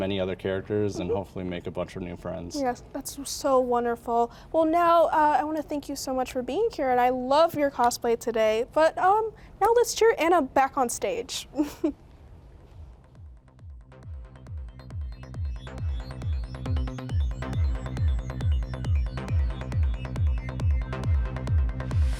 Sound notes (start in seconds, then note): 15.3 chuckles; 16.0 energetic music